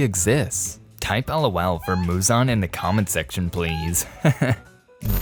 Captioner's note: funny tone